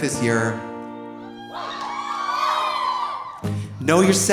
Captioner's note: audience cheering